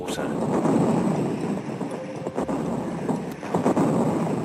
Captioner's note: bombs exploding